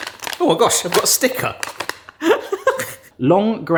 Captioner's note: laughs